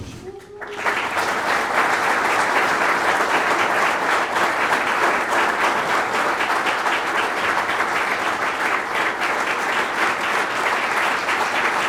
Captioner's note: applause